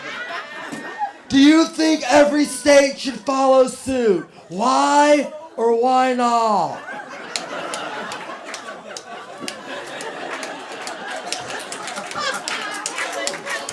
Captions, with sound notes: Do you think every state should follow suit? Why or why not? [LAUGHTER]